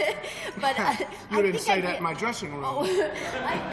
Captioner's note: chuckles